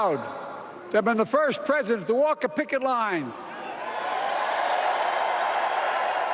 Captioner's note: applause